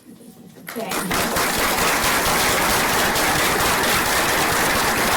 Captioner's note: applause